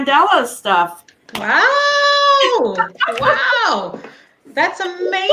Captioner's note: clapping